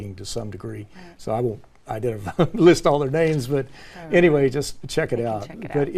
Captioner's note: laugh